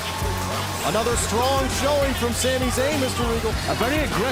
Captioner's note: bell ringing